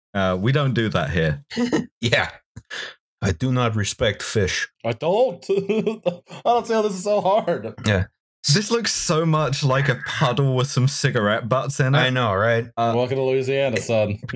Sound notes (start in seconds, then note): 3.2 NY voice; 5.3 laughs